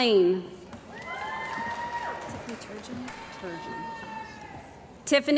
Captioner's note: cheering & Applause